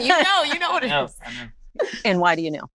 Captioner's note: laughs